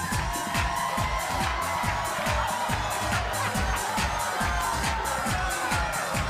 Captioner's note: bass-heavy music; audience jeering, booing, and laughing